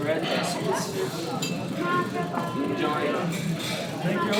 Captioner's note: in Georgian